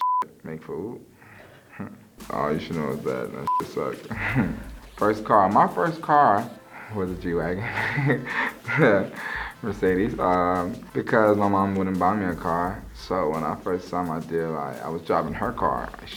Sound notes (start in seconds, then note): 1.7 laughs; 3.4 beep; 4.5 laughs; 7.9 laughs